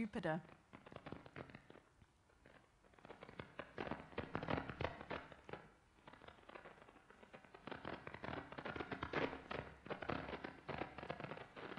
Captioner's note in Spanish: Crujido Suave